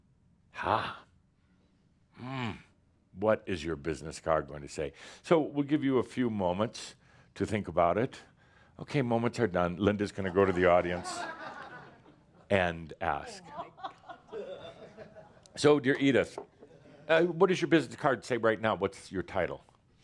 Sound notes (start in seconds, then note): 10.2 laughter